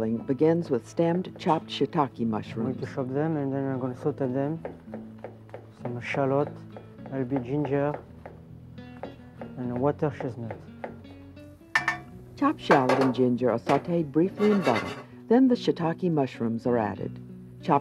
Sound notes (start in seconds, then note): 12.4 voiceover